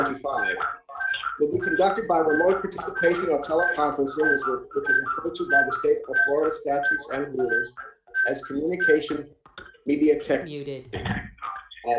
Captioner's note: feedback noise; feedback noise